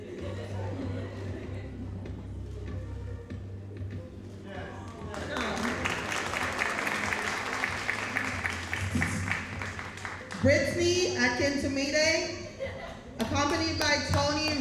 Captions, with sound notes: (audience laughing) (audience applauding) Bretsni Akentumine, accompanied by Tony Riles.